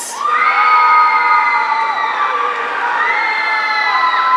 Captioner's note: audience cheering